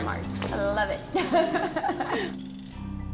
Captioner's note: laughs